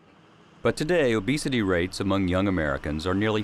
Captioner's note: voiceover